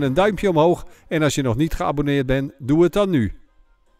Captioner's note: voiceover